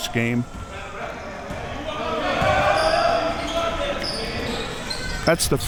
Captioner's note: audience chattering and yelling